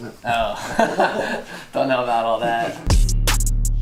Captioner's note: laughs; intense ambient techno